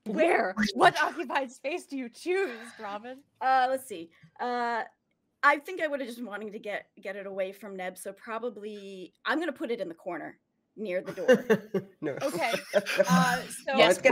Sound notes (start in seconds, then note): 11.0 laughing